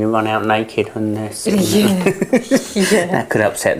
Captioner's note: both laughing